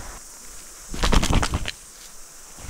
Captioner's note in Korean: 펄럭 펄럭